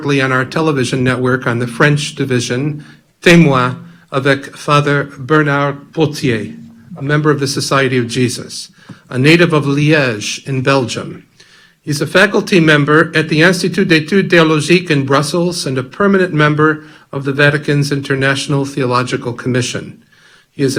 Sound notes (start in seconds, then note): 3.4 speaking in French